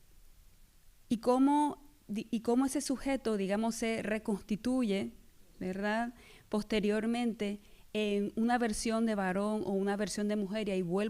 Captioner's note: speaking spanish